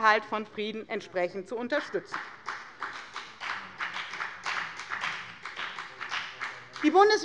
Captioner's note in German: Beifall bei der FDP